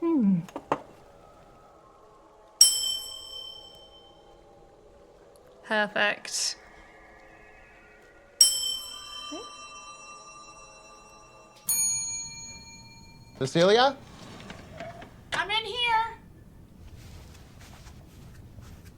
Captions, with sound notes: Hmm. (glass ringing) Perfect. (glass ringing) (bell dinging) - Cecilia? - I'm in here.